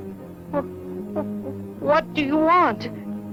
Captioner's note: stammering